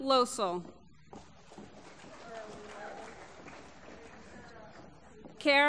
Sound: applause

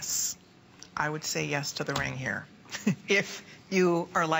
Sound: laughter

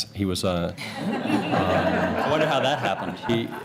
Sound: laughter

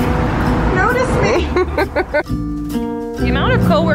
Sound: laughing

